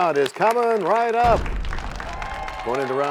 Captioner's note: crashing sound